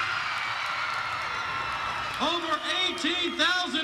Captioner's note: crowd cheering